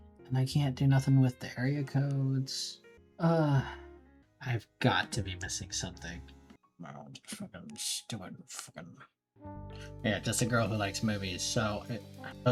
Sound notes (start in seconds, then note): 3.2 tired sigh; 6.6 Joe Pesci mumble